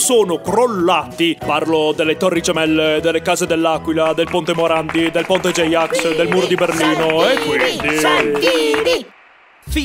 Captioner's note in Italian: applausi